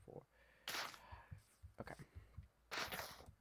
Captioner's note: inhale